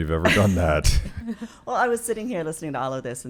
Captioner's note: laughing